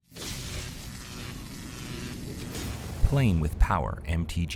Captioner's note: electricity Buzzing